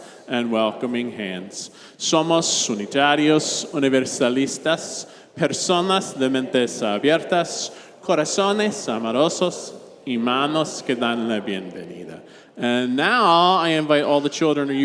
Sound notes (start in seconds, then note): 2.1 reverend speaking in Spanish